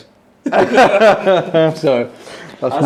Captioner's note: all laughing